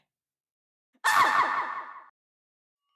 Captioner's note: screams